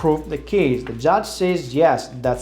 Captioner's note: gavel bangs